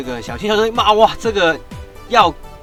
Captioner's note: WOWO language